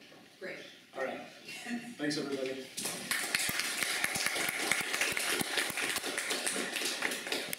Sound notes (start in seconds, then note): 2.9 applause